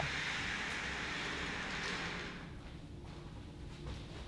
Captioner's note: curtains rasping